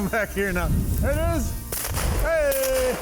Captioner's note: gun firing